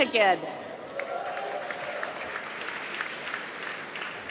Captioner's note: applause